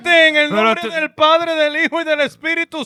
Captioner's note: speaking In Foreign Language